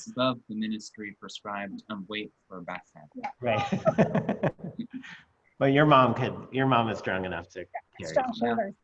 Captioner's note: laughter